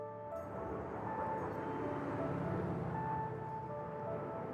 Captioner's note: engine rumbles; peaceful music